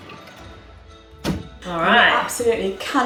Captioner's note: happy music; oven clunks shut